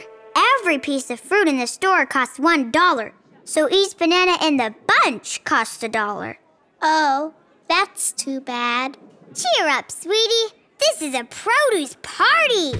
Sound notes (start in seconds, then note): none